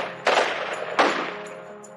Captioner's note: gunshots